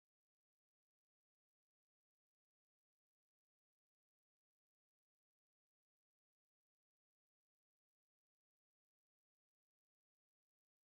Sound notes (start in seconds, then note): none